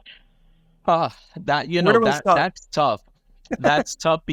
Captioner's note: laughs